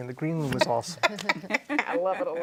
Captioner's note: women laughing